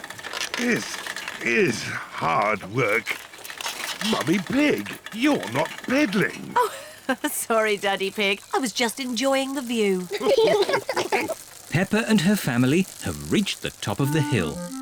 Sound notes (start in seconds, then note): 6.2 giggles; 10.1 all laugh